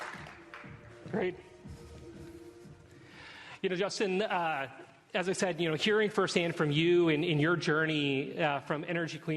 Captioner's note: applause